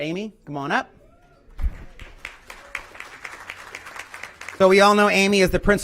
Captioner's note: applause